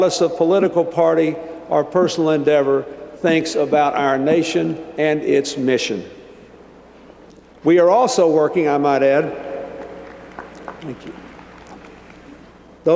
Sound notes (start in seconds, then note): 9.6 applause